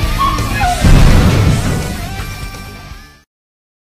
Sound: explosion

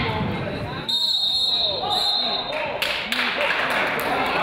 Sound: whistle blows; crowd applauds

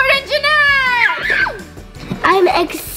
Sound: screams

